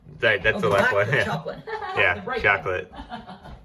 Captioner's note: overlapping chatter and laughter